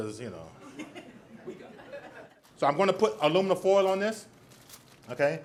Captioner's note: audience laughs